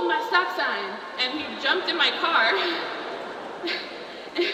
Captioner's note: laughs